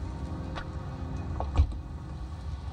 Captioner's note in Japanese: 扉の開閉音：バタン